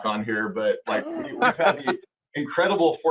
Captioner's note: laughing